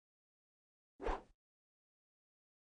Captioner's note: whooshes